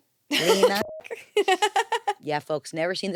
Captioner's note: laughs; beep